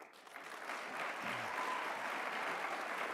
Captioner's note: applause